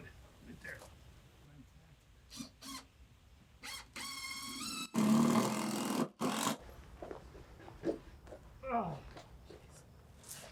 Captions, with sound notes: Okay, I'm good. Right there. (drill whirring) - Ugh, geez.